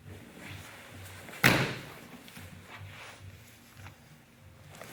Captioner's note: loud thumping